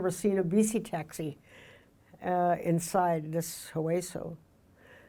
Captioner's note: speaking in foreign language